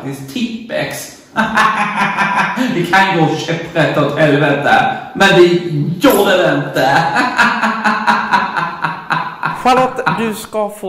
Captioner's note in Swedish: skrattar